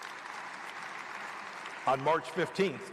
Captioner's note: applause